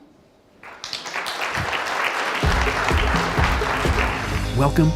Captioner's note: applause